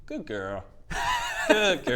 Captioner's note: worrying laugh